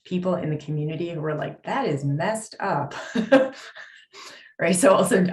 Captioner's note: laughs